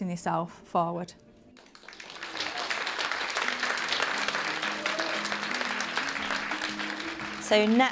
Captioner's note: applause